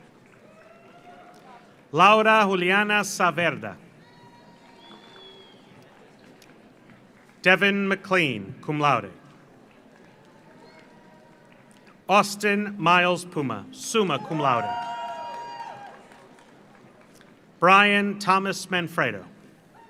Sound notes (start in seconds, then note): 0.0 audience applauds; 0.3 audience cheers; 4.0 audience cheers; 4.0 audience applauds; 9.2 audience applauds; 13.9 audience cheers; 14.0 audience applauds